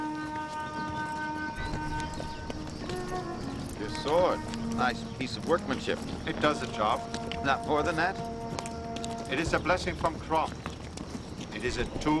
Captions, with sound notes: (footsteps) - Your sword. Nice piece of workmanship. - It does the job. - Not more than that? - It is a blessing from Crom. It is a tool and a friend.